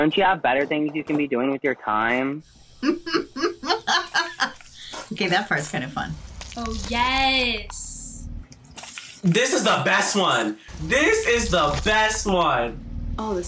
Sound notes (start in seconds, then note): 2.8 laughs